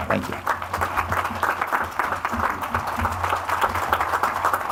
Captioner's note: audience applauds